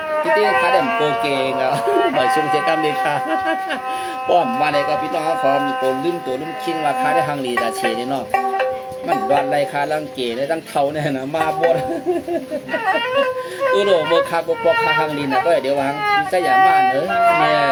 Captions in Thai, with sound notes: เฮม โพ้อมพี่น้องลมม ว่า มันกเฒ่า [เสียงหัวเราะ]